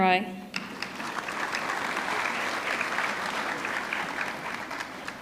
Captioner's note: audience clapping